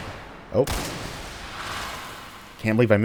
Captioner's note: gasbag exploding